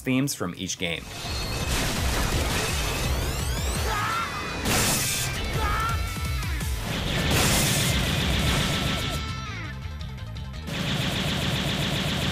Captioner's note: game audio